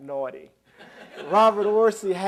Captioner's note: laughter